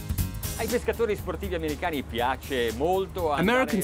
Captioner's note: foreign speaking